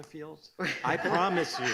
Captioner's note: laughing